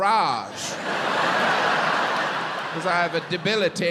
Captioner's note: crowd laughs